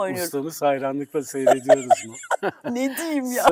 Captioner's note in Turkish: kahkaha